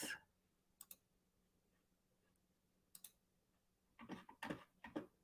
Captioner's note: mouse clicking